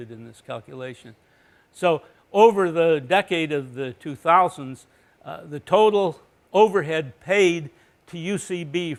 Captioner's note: none